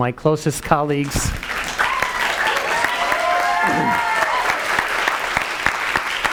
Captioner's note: audience cheering and clapping